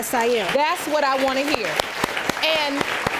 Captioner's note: audience applauding